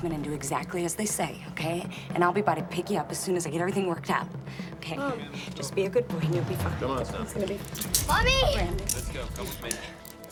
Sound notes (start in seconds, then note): none